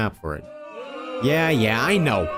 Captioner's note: crowd boo-ing